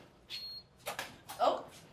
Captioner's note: lock beeps